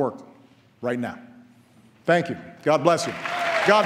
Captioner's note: applause